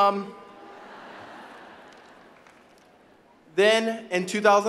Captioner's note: audience laughing